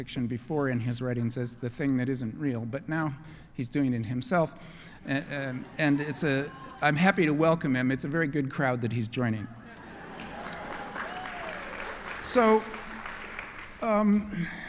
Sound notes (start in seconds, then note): 9.5 laughter; 10.1 applause